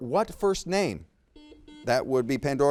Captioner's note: buzzer beeps